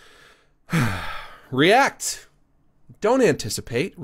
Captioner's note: sighs